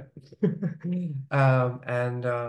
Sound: laughing

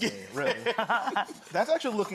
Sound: laughter

